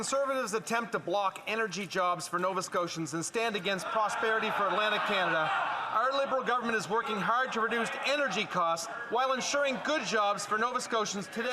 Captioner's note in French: voix de l'interprète